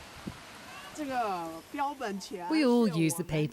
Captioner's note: speaking in foreign language